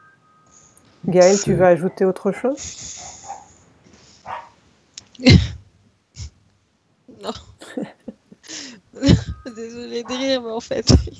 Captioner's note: laughs